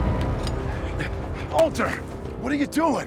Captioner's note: Walter panting